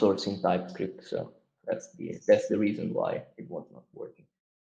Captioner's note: murmurs